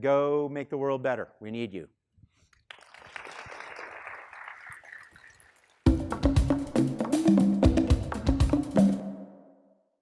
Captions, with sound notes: And go make the world better. We need you. (students clapping) (upbeat music)